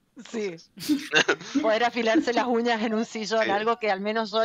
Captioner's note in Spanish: risas